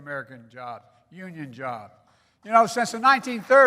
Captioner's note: applause